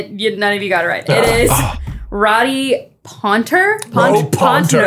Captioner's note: groaning